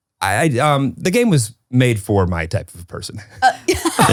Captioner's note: laughs; laugh